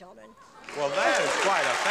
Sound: audience applauding

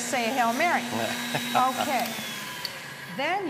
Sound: laughter

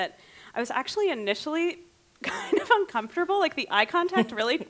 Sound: laughing

